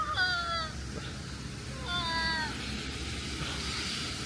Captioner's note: crows